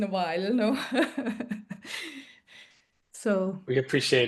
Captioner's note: laughs